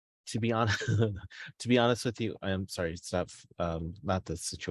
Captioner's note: chuckles